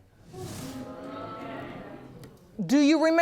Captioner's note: audience gasps